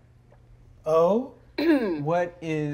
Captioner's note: clearing her throat